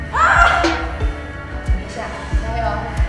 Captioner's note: utter a scream